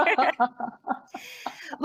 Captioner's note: laughs